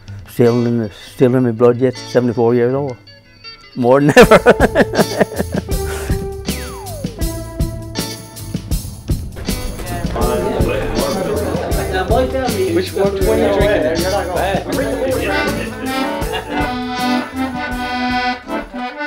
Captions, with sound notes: Still in my blood, yes, 74 years old. More than ever. (laughter) What are you drinking there? (playing accordion)